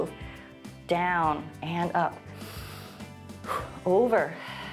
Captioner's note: inhales and exhales; exhales